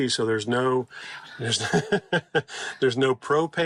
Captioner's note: laughing